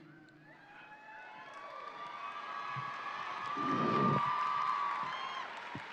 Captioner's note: audience cheering and applauding